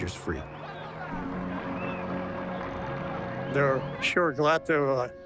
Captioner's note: cheering